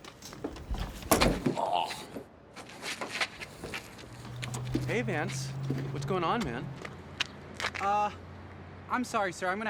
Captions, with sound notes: (body thuds) (Vance groans) - Hey Vance. What's going on man? - Uh, I'm sorry sir,